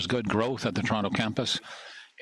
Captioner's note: speaking French